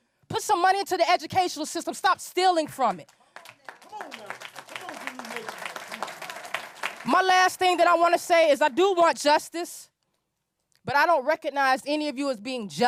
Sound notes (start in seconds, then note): 3.0 applause